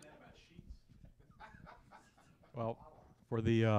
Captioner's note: laughter